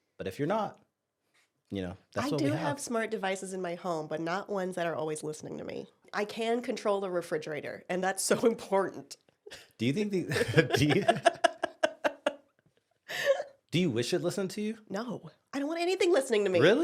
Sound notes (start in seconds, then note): 10.2 laughs; 10.2 both laugh